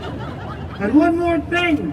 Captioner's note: crowd laughing